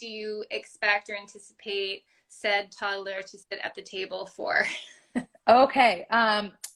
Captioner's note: laugh